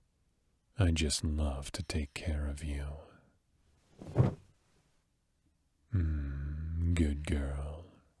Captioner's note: bed noise